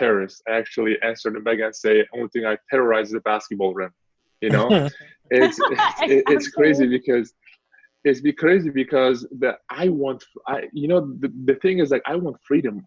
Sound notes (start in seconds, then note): 5.3 laughs; 5.3 chuckles